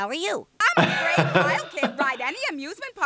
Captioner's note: laughs